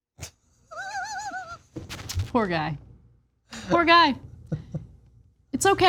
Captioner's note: laugh